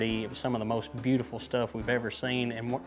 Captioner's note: none